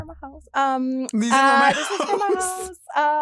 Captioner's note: laughs